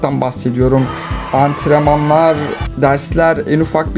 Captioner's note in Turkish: Arkada Maç sesleri